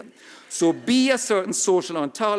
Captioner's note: audience laughing